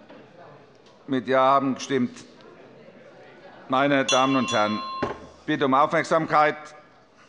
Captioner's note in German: Unruhe - Glockenzeichen des Präsidenten